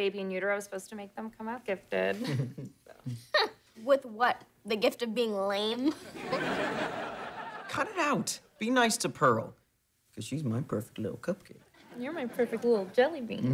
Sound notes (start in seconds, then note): 2.2 laughing; 5.9 laughing